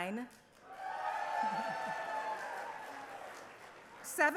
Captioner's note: cheering